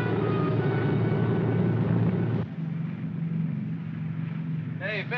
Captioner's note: aircraft rumbles